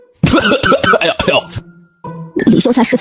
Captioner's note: coughing and groaning